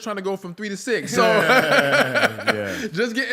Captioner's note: laughter